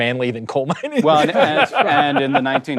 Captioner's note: laughs